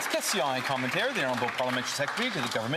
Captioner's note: some Applause